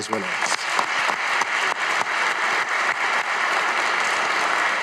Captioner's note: audience applauding